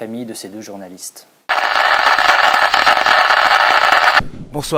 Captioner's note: tape Playing